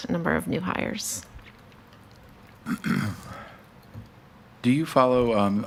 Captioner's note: keyboard clicks; person coughs